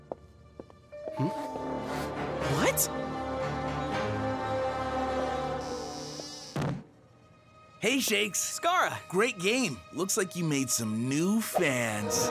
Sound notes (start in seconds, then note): 5.1 door creaking